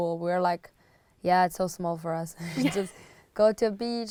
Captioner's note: laughs